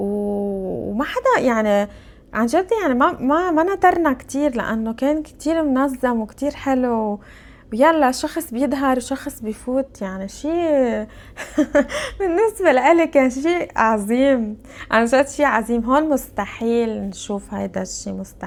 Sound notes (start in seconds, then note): 11.3 laughs